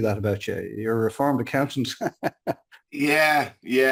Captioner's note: chuckles